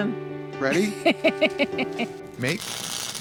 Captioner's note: laughs